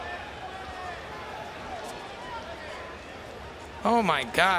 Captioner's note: crowd loudly cheering